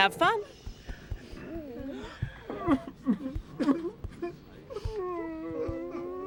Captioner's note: patrons whimpering